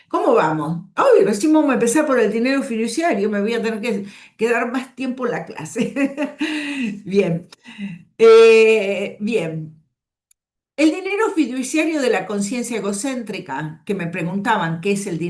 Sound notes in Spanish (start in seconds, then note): 5.8 risas